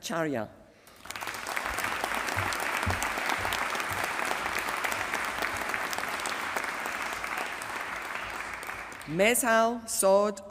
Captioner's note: applause